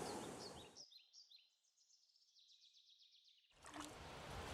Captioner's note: birds singing